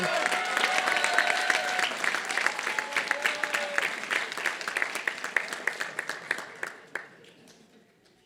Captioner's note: applause